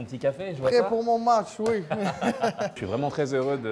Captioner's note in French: rires